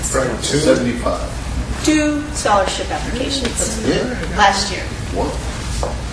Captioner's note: students murmur in surprise